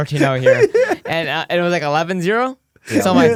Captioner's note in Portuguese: risos